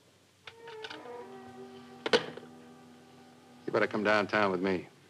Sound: phone clicking

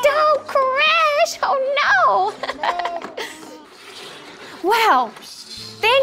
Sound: laughing

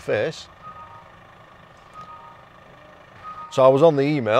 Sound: computer pinging

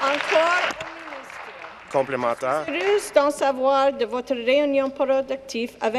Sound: applause

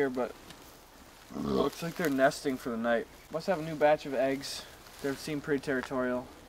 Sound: burps yet again

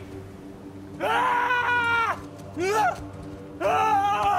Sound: screams and yells

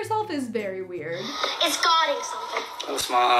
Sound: voice On Computer

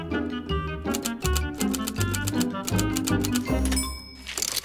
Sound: playful music; typewriter keys clacking; paper rustling

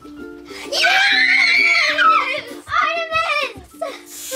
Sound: cheering

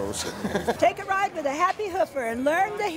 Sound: laughing

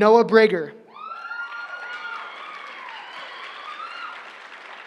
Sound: cheering

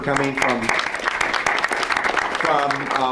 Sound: audience applauds

